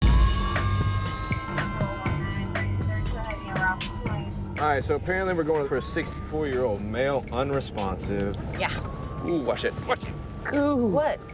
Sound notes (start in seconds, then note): 0.3 sirens